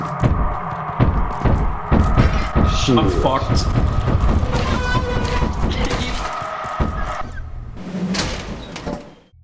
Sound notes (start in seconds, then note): 0.2 thumping noises; 3.7 thumping noises continue; 4.0 desperate airhorn noise